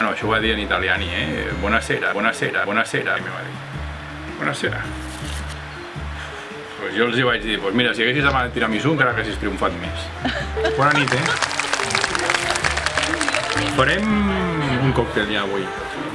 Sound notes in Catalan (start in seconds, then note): 11.7 s'escolten riures